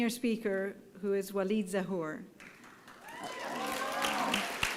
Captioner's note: applause